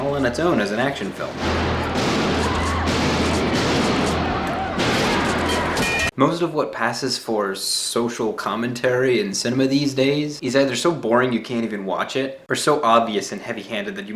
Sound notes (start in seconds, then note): 1.4 gun popping; 2.4 woman screams; 4.8 gun popping; 4.8 metal clangs